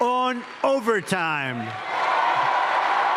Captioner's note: cheers and applause